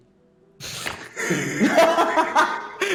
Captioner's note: laughs